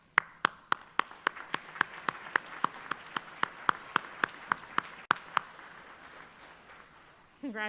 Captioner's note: applause